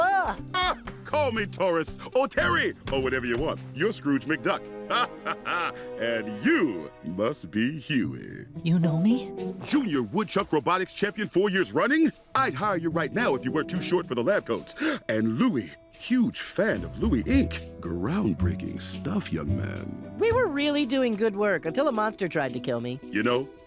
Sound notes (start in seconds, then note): 4.8 laughs